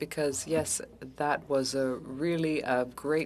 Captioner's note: speaking French